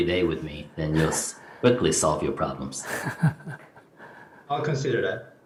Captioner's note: Sunim Laughter